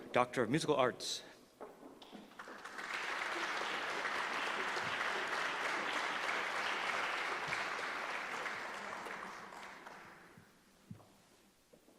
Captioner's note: applause